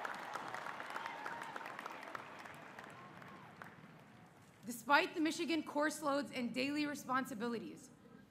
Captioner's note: applause